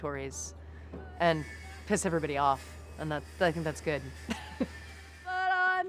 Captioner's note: laughs